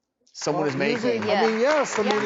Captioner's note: audience clapping